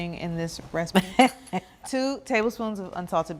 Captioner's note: Bridget chuckles